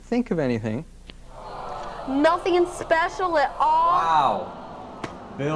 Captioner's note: audience awww's